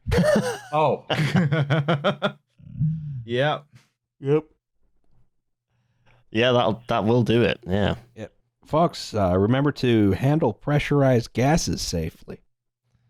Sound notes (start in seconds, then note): 0.0 laughs; 2.6 yawning